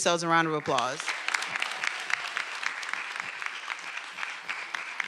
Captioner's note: everyone applauding